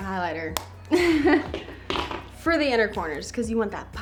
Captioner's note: chuckles